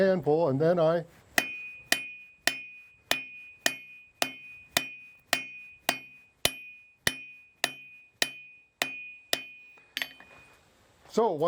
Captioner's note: hammering